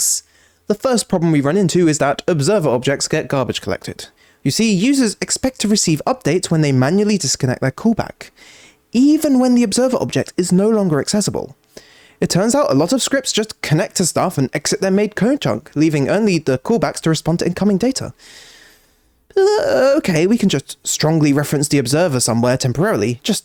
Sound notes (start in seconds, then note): 18.2 inhales